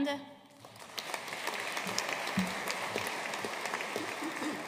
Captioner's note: audience applauding